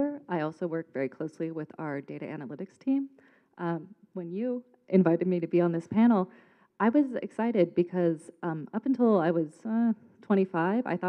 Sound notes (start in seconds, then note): none